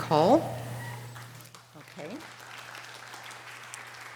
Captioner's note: audience applause